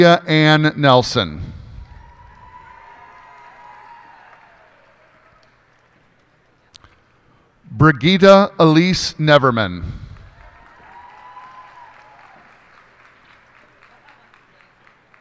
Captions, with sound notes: Olivia Ann Nelson. [cheers and applause] Brigitta Elyse Neverman. [cheers and applause]